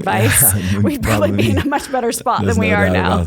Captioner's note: laugh